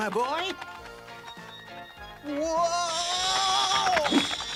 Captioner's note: screeching